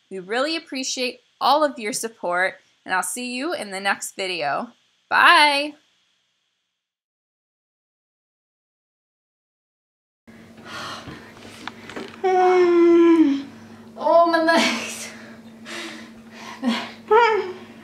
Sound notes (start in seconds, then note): 12.0 sighs